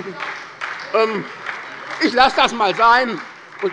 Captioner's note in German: Beifall bei der SPD